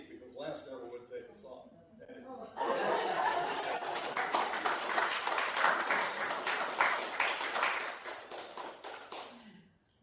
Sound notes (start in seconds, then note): 2.4 laughter; 3.4 applause